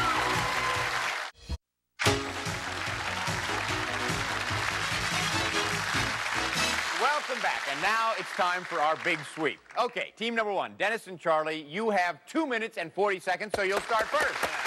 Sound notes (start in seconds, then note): 2.1 cheers and applause; 13.5 applause